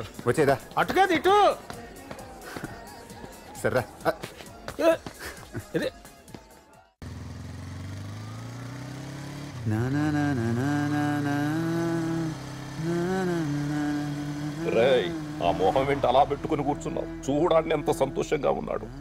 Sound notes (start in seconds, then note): 9.5 humming